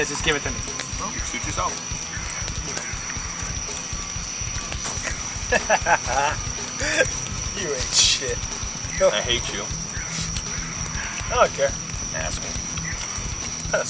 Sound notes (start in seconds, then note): 2.4 fire crackling; 2.4 heavy metal music; 4.9 laughs